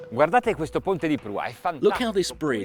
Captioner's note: speaking Italian